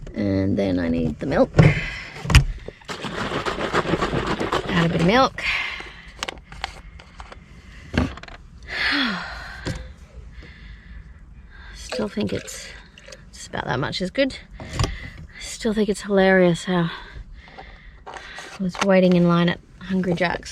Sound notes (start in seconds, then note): 2.8 milk sloshes loudly; 6.1 lid unscrews; 7.7 milk carton thud onto car dashboard; 8.7 sighs heavily; 11.8 liquid pours